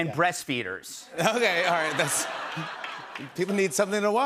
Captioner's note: laughter